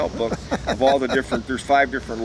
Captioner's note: laughs